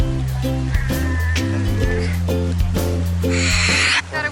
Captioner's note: roaring